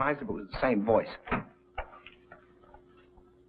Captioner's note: door opens